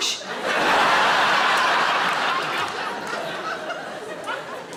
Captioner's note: audience laughing